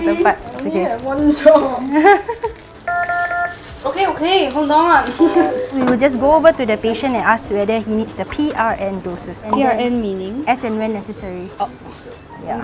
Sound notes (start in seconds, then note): 2.9 Omnicell beeps impatiently